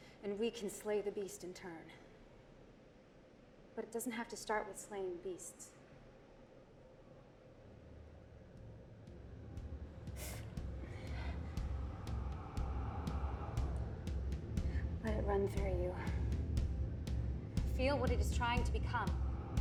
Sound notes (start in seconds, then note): 7.9 suspenseful music; 9.1 Whisper winces